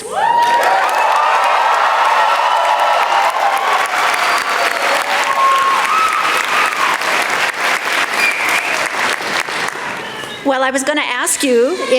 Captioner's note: applause